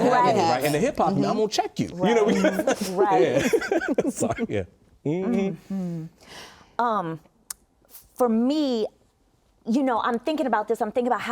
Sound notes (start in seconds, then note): 3.2 laughter